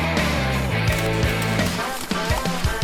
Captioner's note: footsteps pattering; gun firing